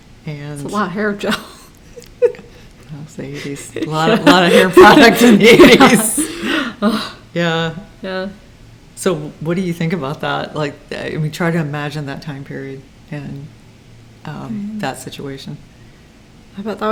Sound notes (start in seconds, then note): 6.0 laughs